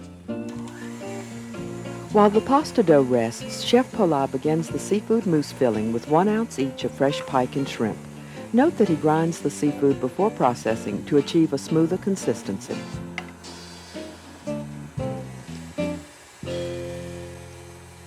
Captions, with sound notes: - [Voiceover] While the pasta dough rests, Chef Pollin begins the seafood mousse filling with one ounce each of fresh pike and shrimp. Note that he grinds the seafood before processing, to achieve a smoother consistency.